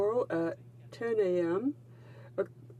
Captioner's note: speaking in french